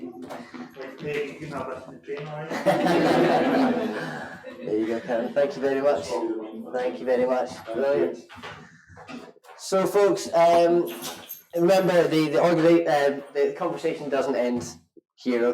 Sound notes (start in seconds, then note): 2.4 all laugh